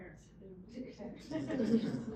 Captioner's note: audience laughing